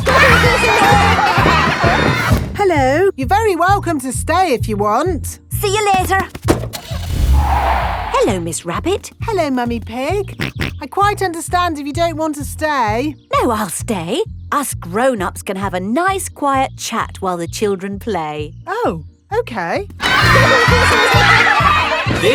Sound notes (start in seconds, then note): 0.2 laughter; 6.6 car starting; 6.8 tires screeching; 10.6 snorts